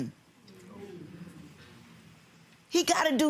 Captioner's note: audience murmurs